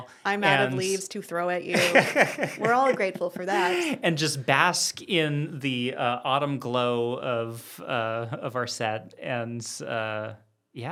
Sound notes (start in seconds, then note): 1.7 laughs